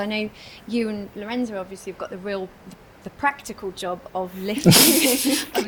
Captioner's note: laughter